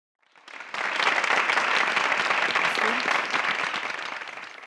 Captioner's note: applause